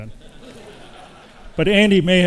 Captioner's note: audience laughs